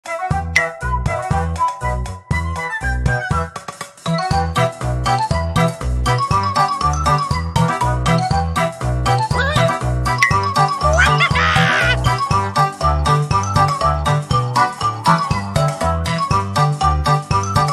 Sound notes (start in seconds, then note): 10.9 laughing cheerfully